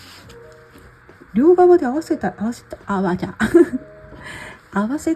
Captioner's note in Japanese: 笑い